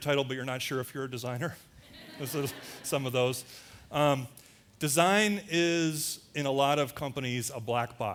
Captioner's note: audience laughter